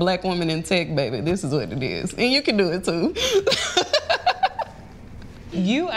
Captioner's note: laughs